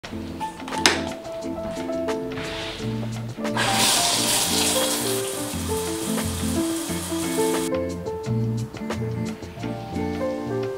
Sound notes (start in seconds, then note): 0.2 mellow music; 3.5 water running